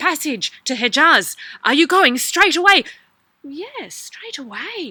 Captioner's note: Ali voice